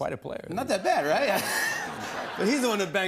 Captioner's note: laughter